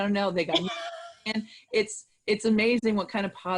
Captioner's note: laughing